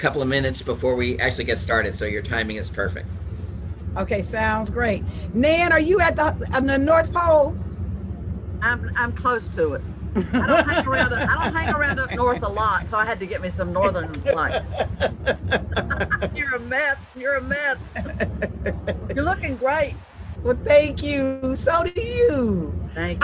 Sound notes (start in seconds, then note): 10.1 ladies laugh; 13.7 laughs